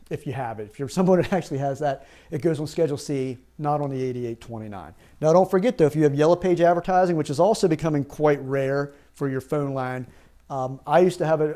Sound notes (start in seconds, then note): 1.1 chuckles